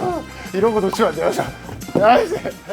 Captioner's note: tennis balls caught